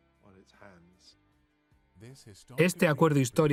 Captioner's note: voiceover